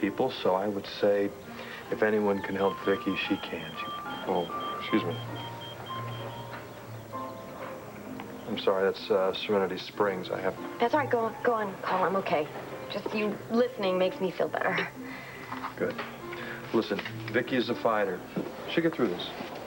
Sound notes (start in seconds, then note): 4.6 pager beeps